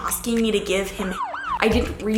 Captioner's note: siren wailing